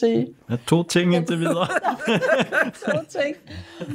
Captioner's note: chuckles; everybody laughs